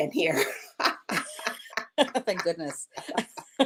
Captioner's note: both laugh